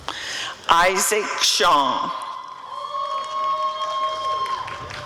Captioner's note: applause and cheering